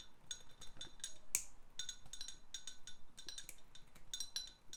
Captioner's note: glass clinking